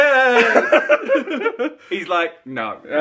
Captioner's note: laughs